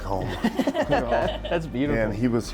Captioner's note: laughter